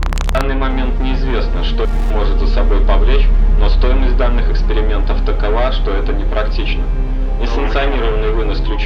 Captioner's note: static